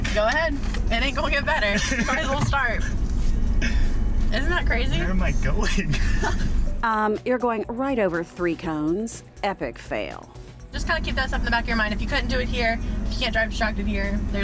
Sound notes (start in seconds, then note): 1.7 laughter; 6.4 laughs